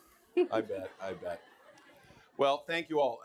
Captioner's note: audience laughing